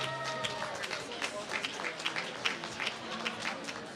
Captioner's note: applause